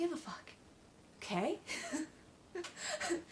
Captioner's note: laugh